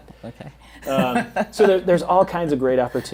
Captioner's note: chuckles